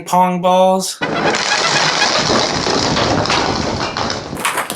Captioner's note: balls falling